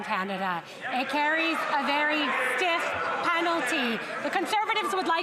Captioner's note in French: voix de l'interprète